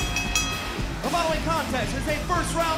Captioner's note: bell ringing